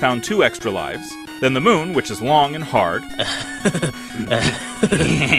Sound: Beavis and Butthead laugh

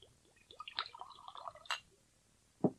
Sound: SFX: pouring drink into glass; SFX: bottle placed

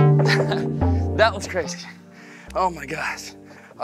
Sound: laughs

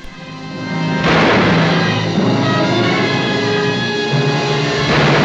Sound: gunshots firing

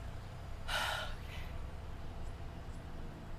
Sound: exhaling

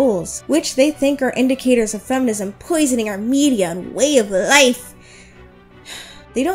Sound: sighs

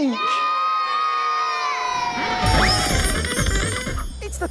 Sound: cheering

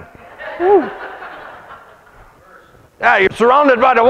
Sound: congregation laughs

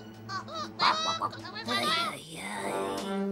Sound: goose vocalizes; chicken muttering

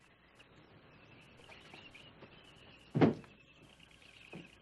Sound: birds chirping

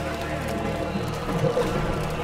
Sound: splashing

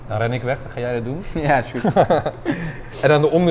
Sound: chuckles; laughs

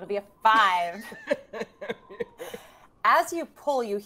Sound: Fairuza laughs

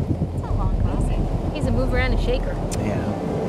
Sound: voiceover

